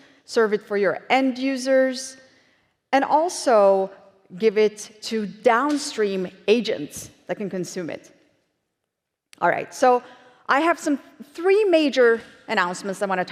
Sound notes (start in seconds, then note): none